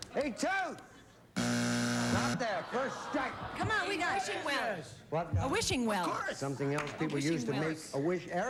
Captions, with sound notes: A TOOTH. [BUZZER] NOT THERE. FIRST STRIKE. A WISHING WELL. WHAT? A WISHING WELL. SOMETHING ELSE PEOPLE USE TO MAKE A WISH. A WISHING WELL.